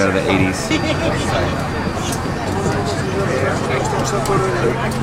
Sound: passengers talking

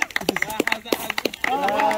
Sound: applause

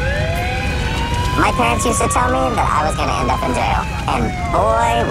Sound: siren wailing

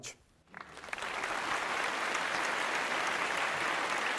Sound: applause

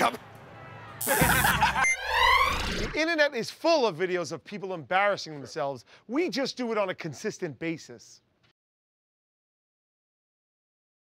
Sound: buzzer; laughter

